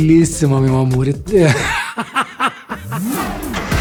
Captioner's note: laughter